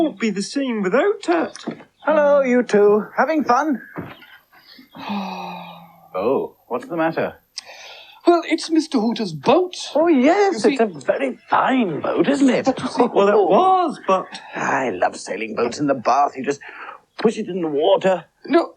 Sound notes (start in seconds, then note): 3.8 Toby Sighs